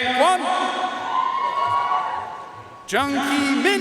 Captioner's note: audience cheering and applauding